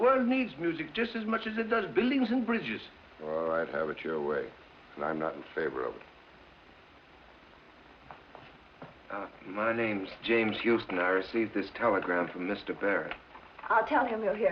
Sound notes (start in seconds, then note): none